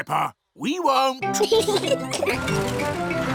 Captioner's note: both giggling